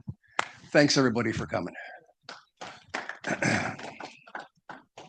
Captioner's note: audience applauds